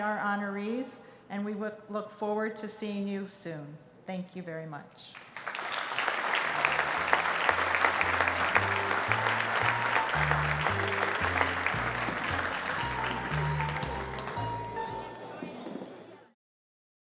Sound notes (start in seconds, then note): 5.8 audience applauding; 13.4 jazzy piano music